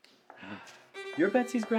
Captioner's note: Oliver sighs